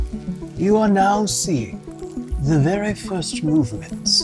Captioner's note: imitating David Attenborough